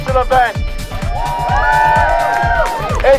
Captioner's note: cheering